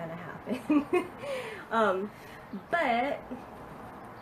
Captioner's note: laughs